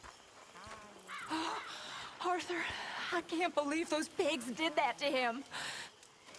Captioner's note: breathing heavily